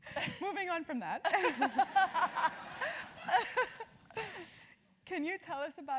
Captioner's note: laugh